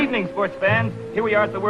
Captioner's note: radio Announcer